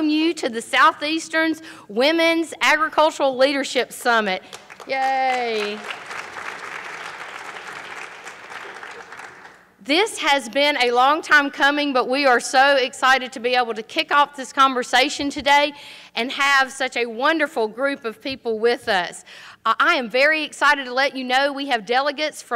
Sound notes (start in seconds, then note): 4.4 applause